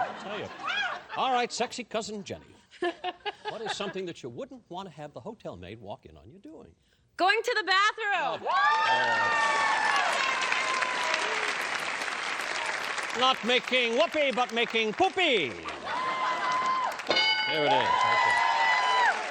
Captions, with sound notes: I'll tell you. All right, sexy cousin Jenny. What is something that you wouldn't want to have the hotel maid walk in on you doing? - Going to the bathroom. [applause] - Not making whoopee, but making poopy. There it is right there.